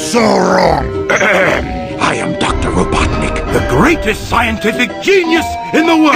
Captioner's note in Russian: кхе кхе